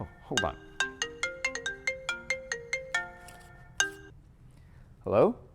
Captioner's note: phone ringing